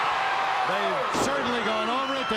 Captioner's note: crowd cheering